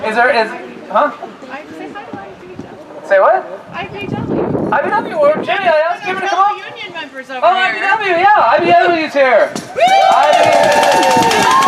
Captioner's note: applause